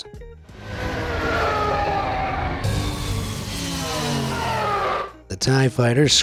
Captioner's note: Tie fighters screeches